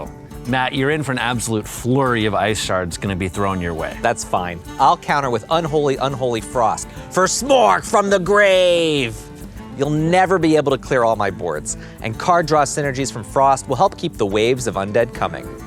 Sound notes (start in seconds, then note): none